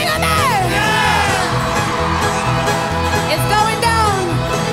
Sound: audience cheers

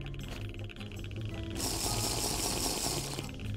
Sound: Minecraft drinking sound

